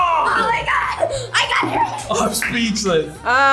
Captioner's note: laughs